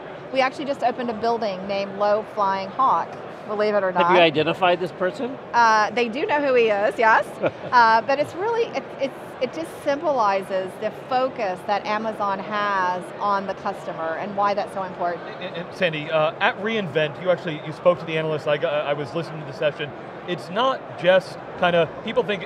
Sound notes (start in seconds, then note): 7.1 laughing